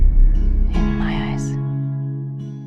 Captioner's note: voiceover